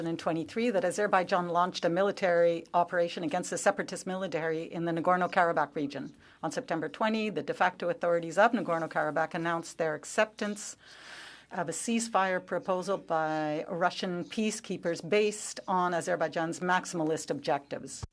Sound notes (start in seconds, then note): 4.0 speaking French